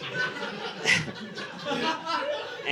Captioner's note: audience laughing